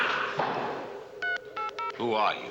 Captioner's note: beeping